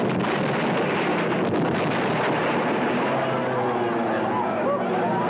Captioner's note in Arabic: هدير محركات الطائرة; انفجارات مدوية; صراخ الحشد